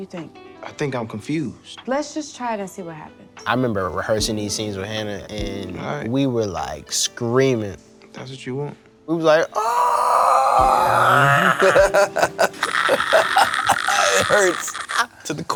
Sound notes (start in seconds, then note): 9.3 laughs; 9.4 mimics screaming